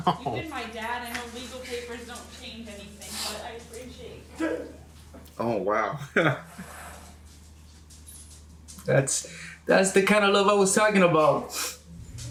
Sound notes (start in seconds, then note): 5.0 man cries; 6.0 laughs